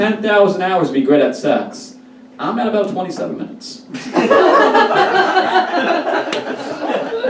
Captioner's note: audience Laughs